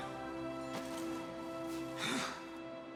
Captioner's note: gasps